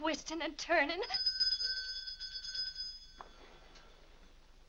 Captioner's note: bell rings